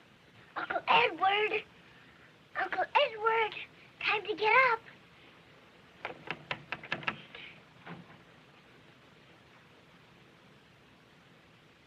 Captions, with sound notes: Uncle Edward. Uncle Edward. Time to get up. [knocking]